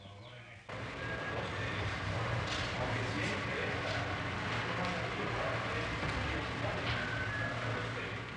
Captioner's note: office Sounds